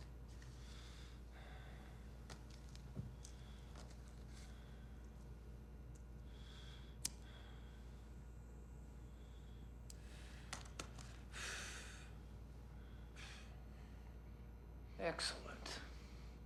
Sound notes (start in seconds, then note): 7.0 lighter flickers